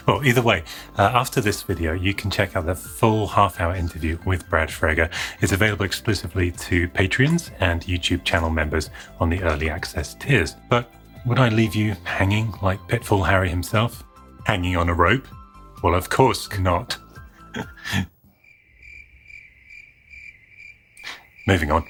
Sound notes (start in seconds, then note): 17.3 laughs; 18.1 crickets chirping